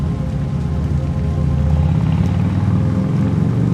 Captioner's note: motorcycle rumbles